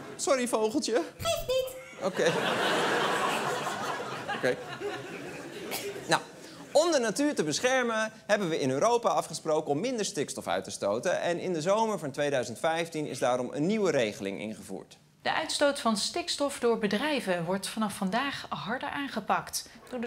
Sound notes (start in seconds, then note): 1.2 in squeaky voice; 2.0 laughter